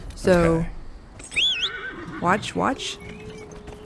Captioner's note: whistle